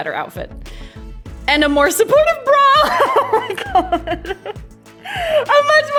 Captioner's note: laughs